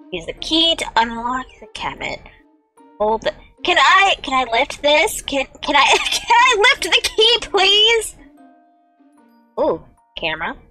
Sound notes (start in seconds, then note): 5.9 wheezing laugh